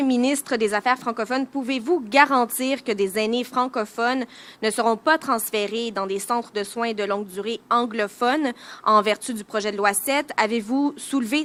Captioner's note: speaking French